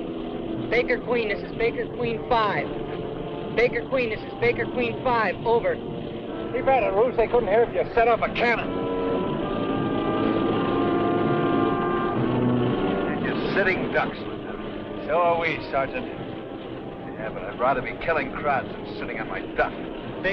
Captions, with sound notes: - Baker queen, this is baker queen five. Baker queen, this is baker queen five. Over. - Keep at it, Roost. They couldn't hear if you set up a cannon. (motor whirring) (dramatic instrumental music) - They're just sitting ducks, lieutenant. - So are we, sergeant. - Yeah, but I'd rather be killing krauts than sitting on my duff.